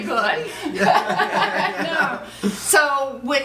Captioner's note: laughing